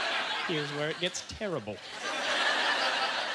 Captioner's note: audience laughter